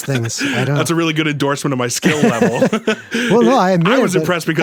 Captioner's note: laughs